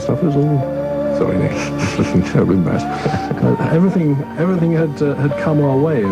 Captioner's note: laughing